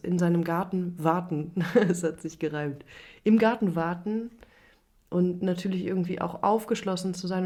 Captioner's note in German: gelächter